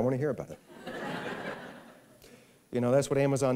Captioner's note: laughter